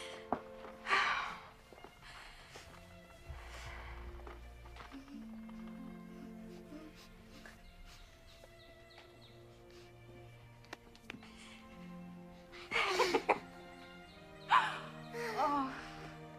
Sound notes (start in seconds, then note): 5.9 sniffs